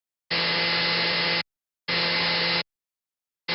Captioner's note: blender whirs